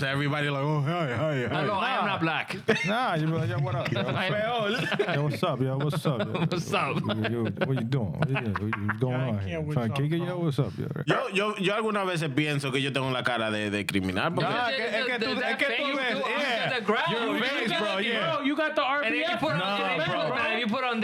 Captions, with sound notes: everybody like, oh, hey, hey, hey. I know, I am not black. Nah, you better, what up? Hey, hey, hey, hey. Yo, what's up, yo, what's up? What's up? What you doing? I can't, what's up, bro? Trying to kick it, yo, what's up? (Speaking In Foreign Language) You got the RPA, you put on